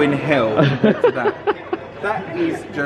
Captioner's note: laughing